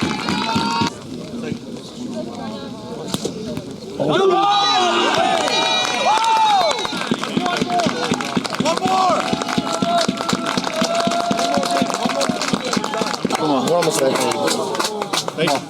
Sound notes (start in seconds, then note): 5.5 cheering; 9.6 applause